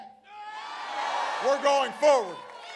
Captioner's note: applause